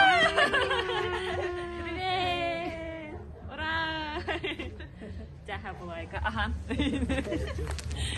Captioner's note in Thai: เสียงหัวเราะ